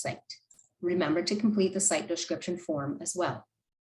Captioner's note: click